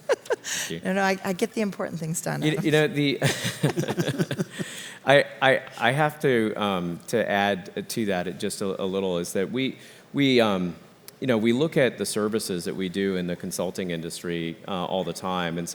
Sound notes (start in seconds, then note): 0.0 laugh; 2.2 laugh